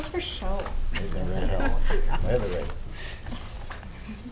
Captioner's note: all mumbling